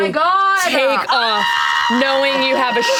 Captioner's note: screams